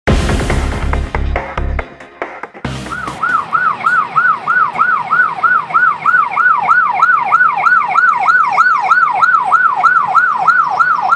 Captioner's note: siren - ambulance approaching